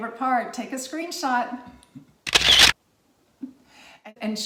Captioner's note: camera shutters